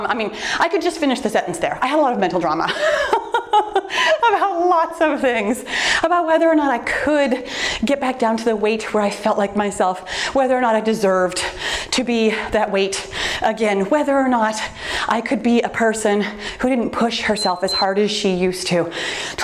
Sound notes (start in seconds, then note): 2.7 laughs; 17.2 timer beeps